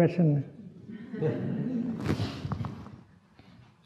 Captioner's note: laughter